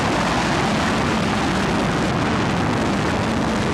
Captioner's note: plane noise